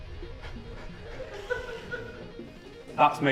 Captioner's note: laughter